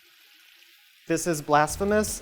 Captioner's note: buzzing